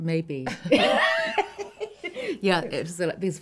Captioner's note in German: lachen